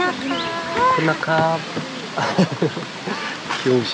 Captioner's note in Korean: 기사님의 한숨소리